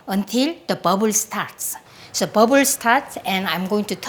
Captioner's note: none